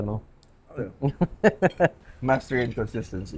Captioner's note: laughs